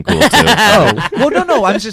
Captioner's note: laughs